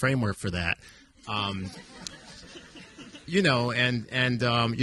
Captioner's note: audience laughing